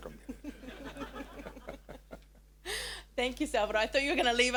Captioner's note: everyone laughing